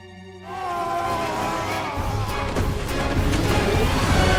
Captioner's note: screaming